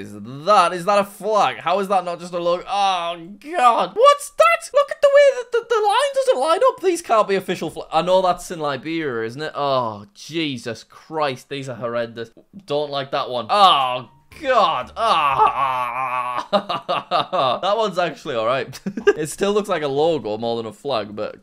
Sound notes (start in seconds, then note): 14.3 groans; 16.6 laughs